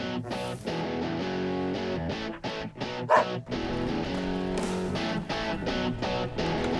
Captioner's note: lively rock music; dog barking